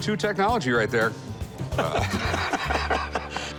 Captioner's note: laughter